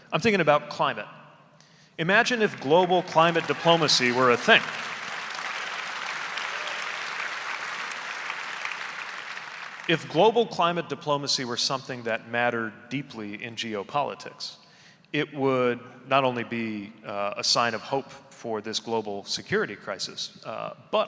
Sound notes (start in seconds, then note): 4.8 audience applauding